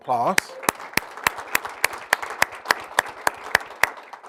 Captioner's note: applauding